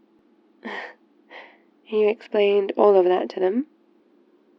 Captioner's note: laughs